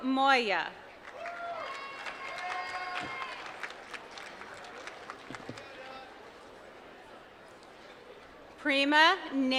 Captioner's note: applause